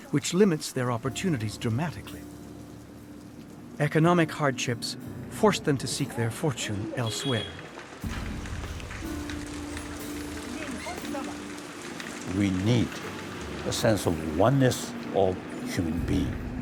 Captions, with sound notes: which limits their opportunities dramatically. Economic hardships force them to seek their fortune elsewhere. (rain pattering) (person speaks foreign language) - We need a sense of oneness of human being.